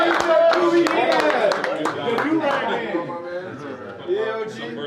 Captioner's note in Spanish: equipo hablando indistintamente